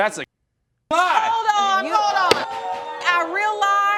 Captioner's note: audience gasping